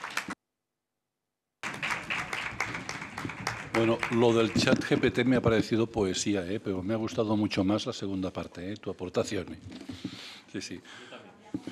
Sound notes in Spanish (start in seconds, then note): 1.6 Aplausos